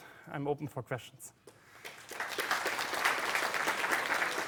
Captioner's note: applause